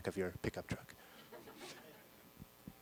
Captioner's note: laughter